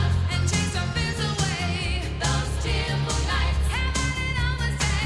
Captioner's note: none